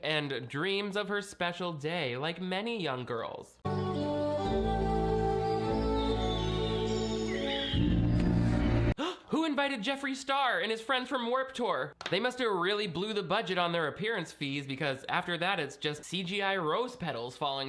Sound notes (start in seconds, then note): 3.6 elegant music; 7.9 ominous music; 9.0 gasps